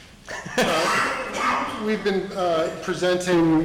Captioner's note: laughing